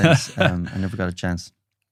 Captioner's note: laughing